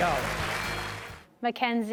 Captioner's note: audience applauds